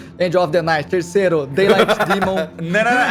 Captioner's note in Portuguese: risadas